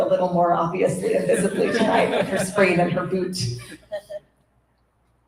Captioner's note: laughter